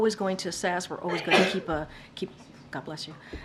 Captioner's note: reporter sneezes